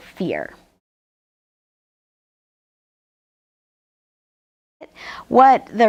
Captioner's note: silence